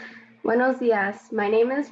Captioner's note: speaks Spanish